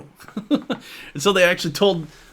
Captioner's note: laughs